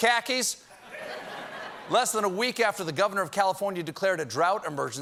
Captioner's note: audience reacts